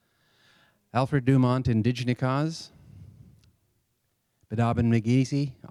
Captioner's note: speaks Anishinaabe language; speaks Anishinaabe language